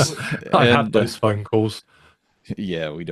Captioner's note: both laughing